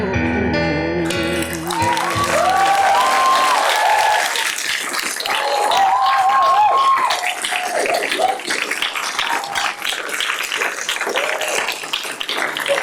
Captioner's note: clapping